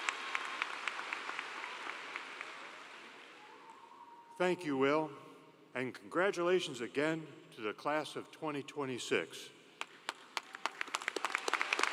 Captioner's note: applause